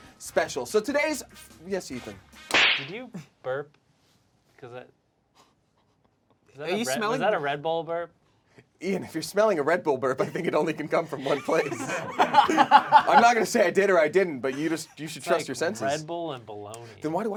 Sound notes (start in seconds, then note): 2.5 loud smacking; 10.2 laughing